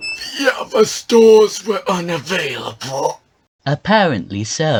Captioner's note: straining